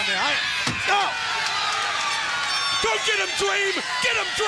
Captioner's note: crowd cheering